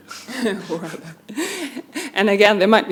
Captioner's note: both chuckling